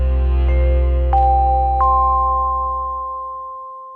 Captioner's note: bell chiming